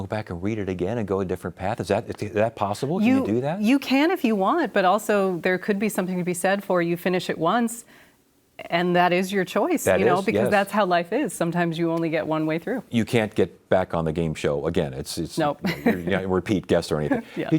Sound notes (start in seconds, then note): 15.6 chuckles